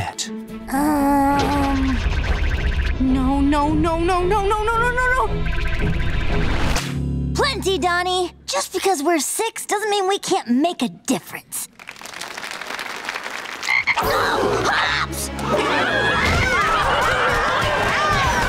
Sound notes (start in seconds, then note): 11.7 applauding; 15.4 screaming